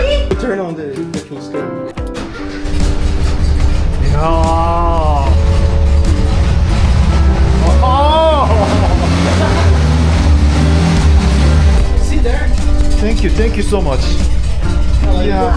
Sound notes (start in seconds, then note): 4.9 the engine sound is so emotional ㄷㄷ; 7.4 the sound of a 50-year-old engine that doesn't even register as noise